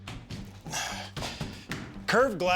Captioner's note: sighs